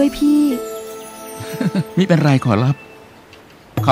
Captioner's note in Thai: หัวเราะเบาๆ